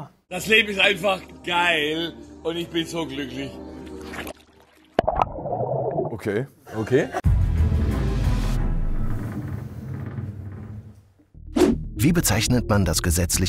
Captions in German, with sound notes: "Das Leben ist einfach geil, und ich bin so glücklich." (Blubbern) Okay. - Okay. (Spannungsvolle Musik)